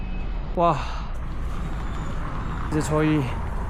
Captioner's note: so out of breath